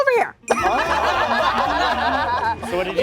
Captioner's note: everyone laughs